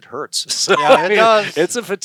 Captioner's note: laughing